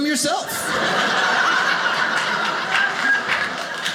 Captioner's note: audience laughing